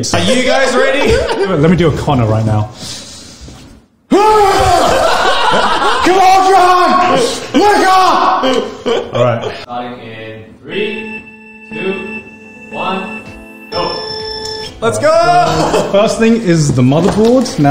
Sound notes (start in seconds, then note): 4.2 grunts; 4.6 group laughs